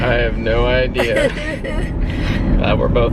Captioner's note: chuckling